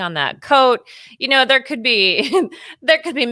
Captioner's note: laughs